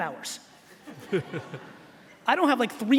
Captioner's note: laughing